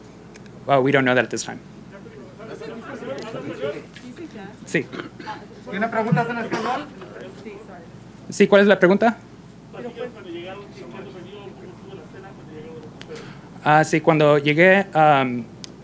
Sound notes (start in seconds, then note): 4.6 Spanish; 8.3 in Spanish